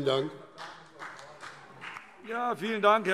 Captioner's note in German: Beifall BÜNDNIS 90/DIE GRÜNEN und vereinzelt CDU